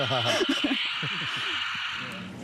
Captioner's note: static continues